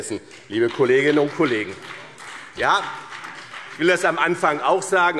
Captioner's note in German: Beifall BÜNDNIS 90/DIE GRÜNEN und CDU